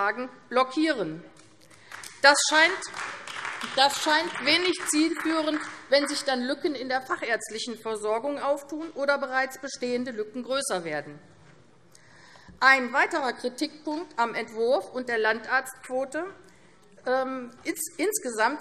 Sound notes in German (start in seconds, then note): 1.7 Beifall AfD